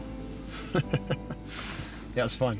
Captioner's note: laughs